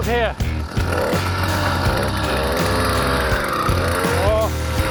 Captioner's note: motor revs; upbeat music